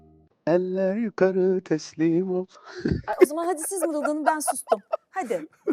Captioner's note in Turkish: kahkaha